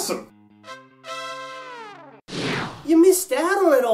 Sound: whoosh SFX

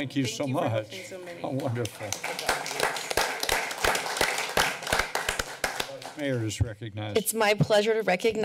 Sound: applause

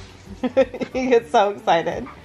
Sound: chuckles

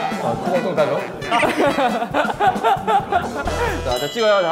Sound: kekekeke

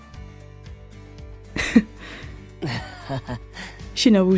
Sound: chuckle

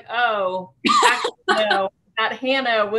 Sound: laughing

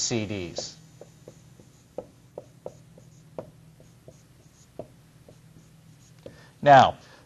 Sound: writing on whiteboard

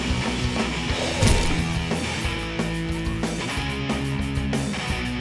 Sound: flesh squishing

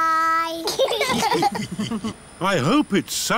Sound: laughter

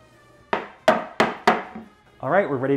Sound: hard taps

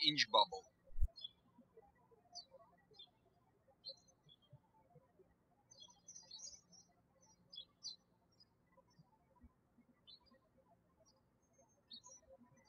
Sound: birds chirping

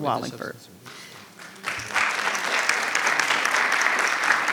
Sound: audience applauding

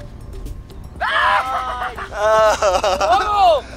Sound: laugh of devil

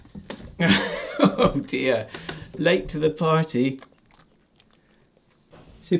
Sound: laughs

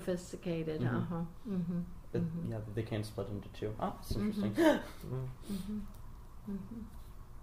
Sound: laughs slightly

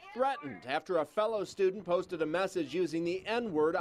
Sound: crowd noise

